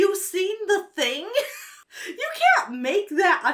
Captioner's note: laughs